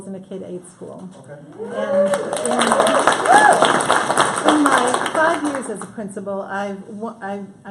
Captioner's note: applause